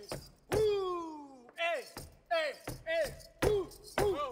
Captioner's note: grunting